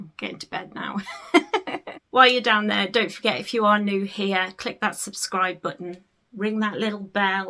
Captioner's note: laughs